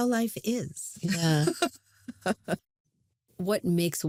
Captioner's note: chuckles; laughs